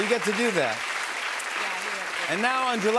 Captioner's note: cheers and applause